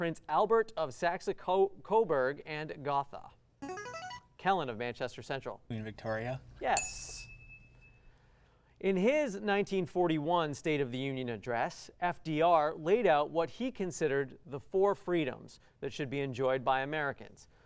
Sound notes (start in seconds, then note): 3.6 buzzer